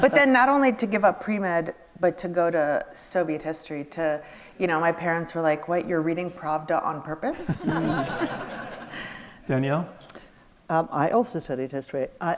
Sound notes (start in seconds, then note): 7.4 audience laughs